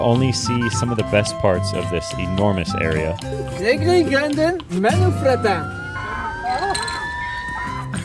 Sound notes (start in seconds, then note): 6.2 laughter